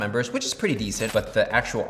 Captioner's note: coins clink